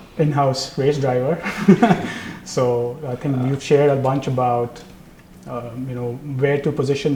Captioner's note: laugh